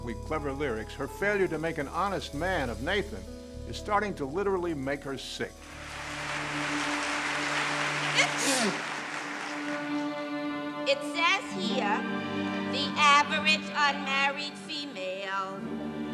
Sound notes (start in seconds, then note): 5.6 applause; 8.1 sneezes loudly